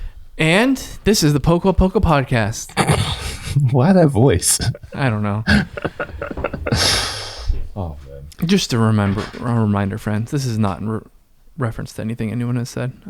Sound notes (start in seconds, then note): 2.6 laughs; 4.3 chuckles; 6.0 laughs